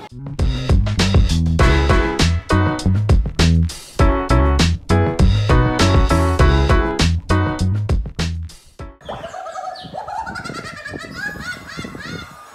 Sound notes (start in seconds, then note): 0.3 upbeat music; 9.0 witch cackling